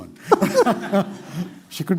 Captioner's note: laughter